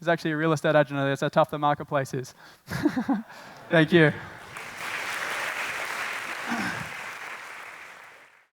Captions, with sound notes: It's actually a real estate agent under there, that's how tough the marketplace is. Thank you. (applause)